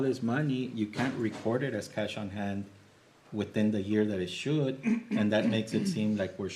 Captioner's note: clears throat